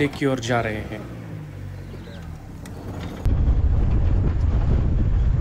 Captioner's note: vehicle moving